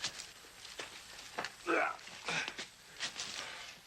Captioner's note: Dan grunting